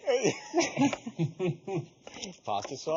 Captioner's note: laughing together